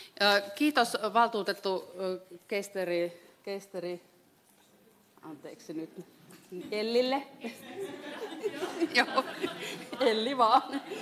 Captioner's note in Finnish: naurua